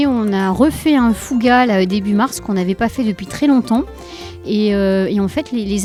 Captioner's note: bonfire